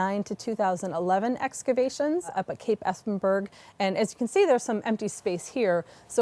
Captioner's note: none